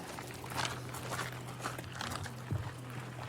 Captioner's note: footsteps crunching